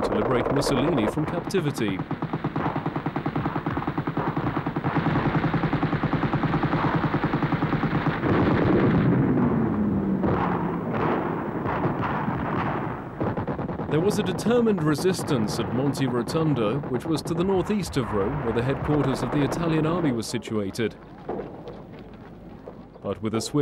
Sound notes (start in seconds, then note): 3.2 machine gun firing